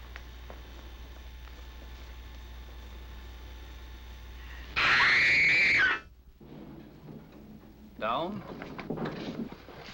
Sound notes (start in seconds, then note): 4.7 screaming